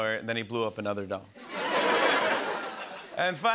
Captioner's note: laughter